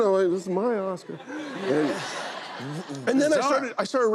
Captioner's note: laughter